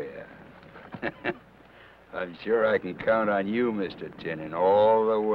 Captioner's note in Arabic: يضحك